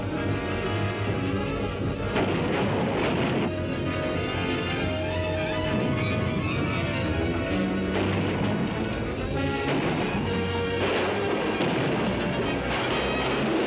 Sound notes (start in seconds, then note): 0.1 dramatic music; 1.8 artillery firing; 2.6 dramatic music